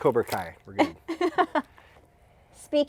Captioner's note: laughing